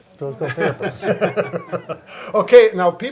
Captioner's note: all laughing